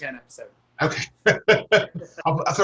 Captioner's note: laughter